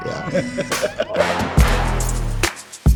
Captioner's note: laughs; upbeat music